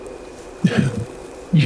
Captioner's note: soft laugh